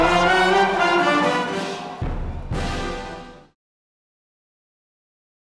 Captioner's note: applause